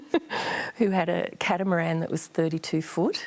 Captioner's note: laughs